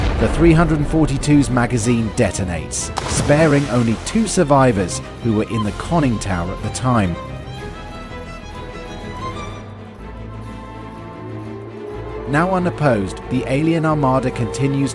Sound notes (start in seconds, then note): 9.2 threatening music; 10.5 air raid siren